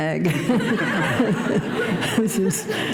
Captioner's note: laughter